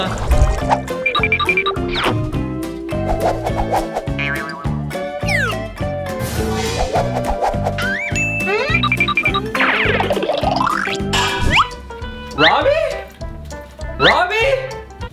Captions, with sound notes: (upbeat music begins) (whoosh) (boing) - Robby? Robby?